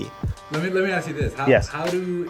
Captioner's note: voiceover